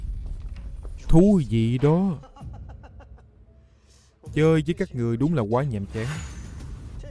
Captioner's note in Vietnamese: tiếng cười